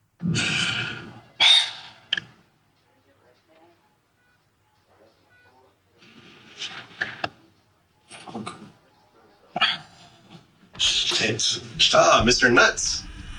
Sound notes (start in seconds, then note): 0.2 inhale; 2.6 background hospital noise; 13.2 door close